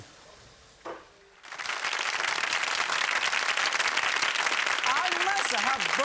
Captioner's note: audience applauding